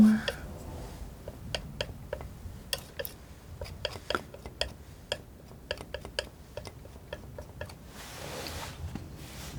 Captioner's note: tapping